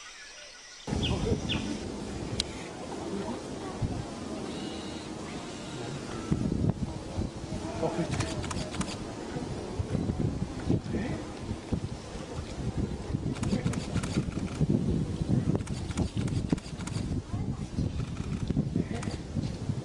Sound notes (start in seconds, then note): 13.3 camera shutters clicking